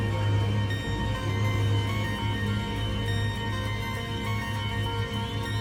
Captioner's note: traffic noise